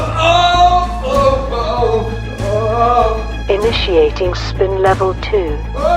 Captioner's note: shouts; groans